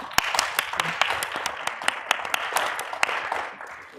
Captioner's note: people clapping